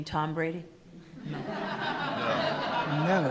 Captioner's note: attendees laughing